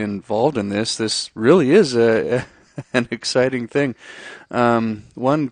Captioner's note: laughs